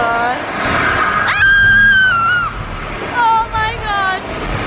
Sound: girls scream

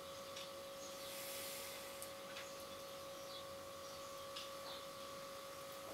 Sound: distant birds chirping; hunter sighing

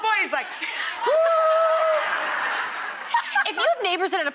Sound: laughs

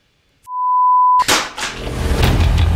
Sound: tone beeps; tablet thuds; rock music

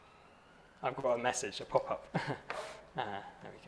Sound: chuckles

